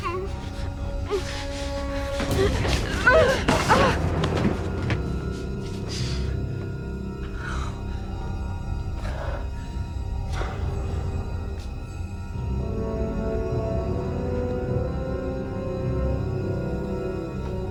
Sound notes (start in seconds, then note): 3.1 groaning